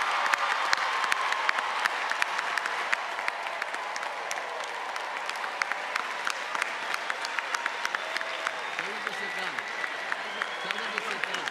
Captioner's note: cheers and applause